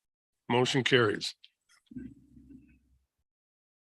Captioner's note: silence